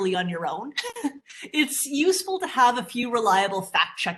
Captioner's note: chuckles